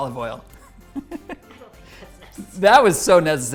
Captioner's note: laughing